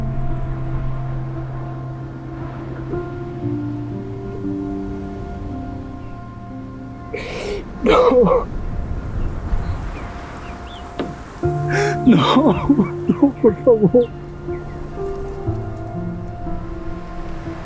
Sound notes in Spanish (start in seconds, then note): 7.8 resoplido; 14.8 risas